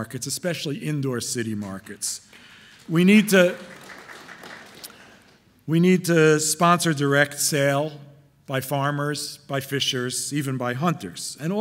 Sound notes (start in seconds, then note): 2.6 audience applauding